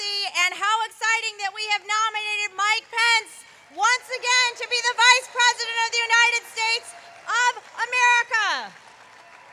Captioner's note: applause